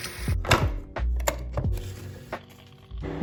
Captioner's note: tea brewing